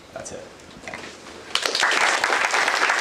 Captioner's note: applause